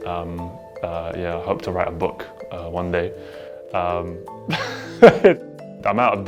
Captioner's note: laughs